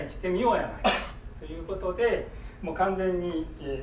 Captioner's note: coughing